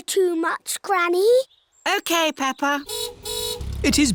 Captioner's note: car horn honks